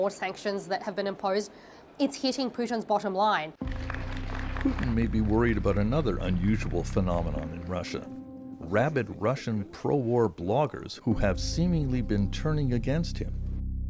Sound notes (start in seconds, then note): 5.4 applause